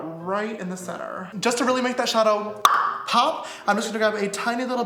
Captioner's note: tongue pop